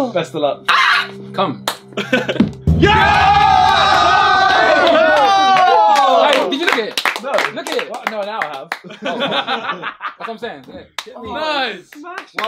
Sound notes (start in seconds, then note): 2.6 all cheering; 8.8 all laughing